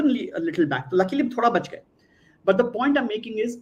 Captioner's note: non-english speech